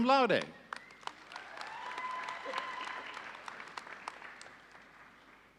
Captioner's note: audience cheering